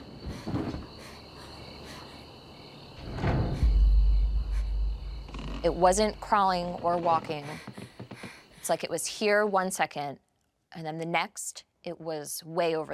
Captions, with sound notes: [creaking] It wasn't crawling or walking. It's like it was here one second, and then the next, it was way over there.